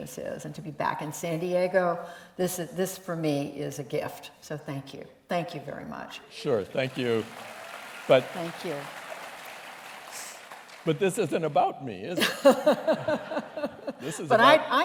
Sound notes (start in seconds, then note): 6.5 applause; 14.6 laughter